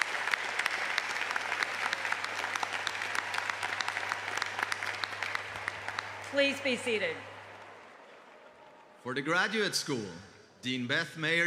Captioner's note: applause